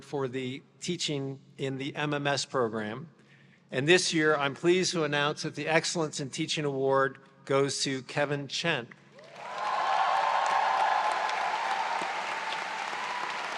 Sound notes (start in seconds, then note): 9.2 audience cheers